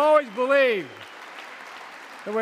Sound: audience applauding

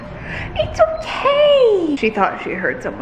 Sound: Layla whines

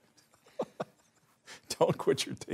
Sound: chuckling

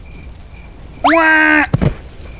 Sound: Wario screams

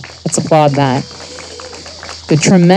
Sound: audience applauding

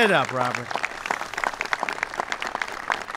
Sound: applause

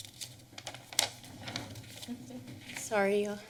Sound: paper rustling

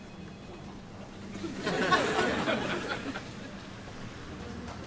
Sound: audience laughs

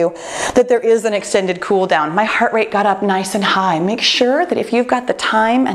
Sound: none

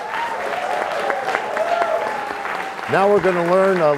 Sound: cheers and applause

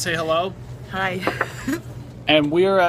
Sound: chuckles

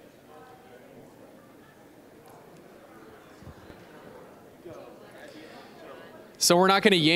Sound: general chatter

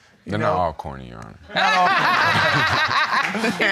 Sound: all laughing

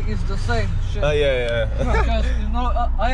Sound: laughing

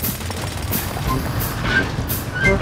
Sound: drilling

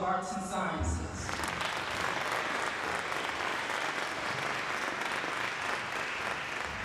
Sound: applause

